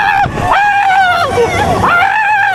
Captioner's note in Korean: 아아아아악